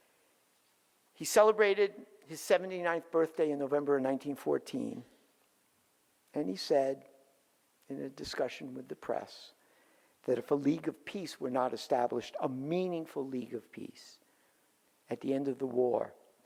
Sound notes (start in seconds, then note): none